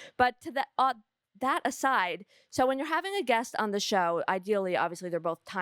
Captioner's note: none